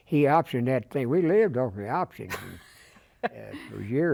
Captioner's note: laughter